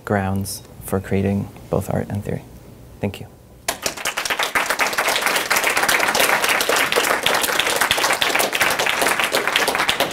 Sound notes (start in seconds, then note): 3.6 applause